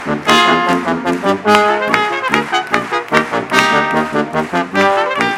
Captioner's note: audience clapping